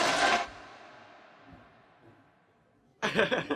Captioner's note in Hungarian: halk zsivaj, Belloni nevetése